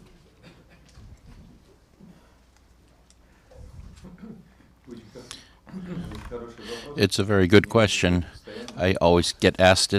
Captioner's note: through translator